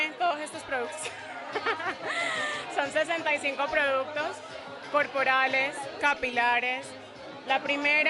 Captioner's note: laughs